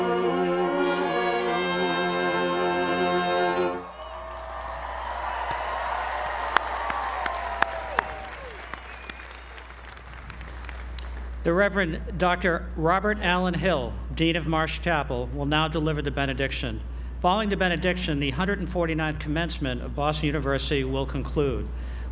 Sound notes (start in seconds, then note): 3.9 applause